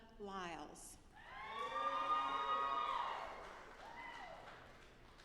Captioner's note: audience applauding